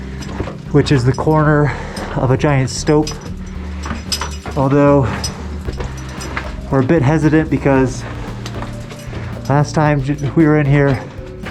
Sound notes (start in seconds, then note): 3.3 metallic clanking; 7.1 breathing hard